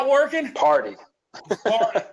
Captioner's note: laughs